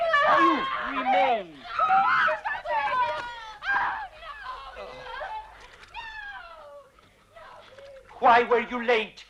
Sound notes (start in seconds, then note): 1.5 mother and daughter screaming; 4.6 Rothrar sighs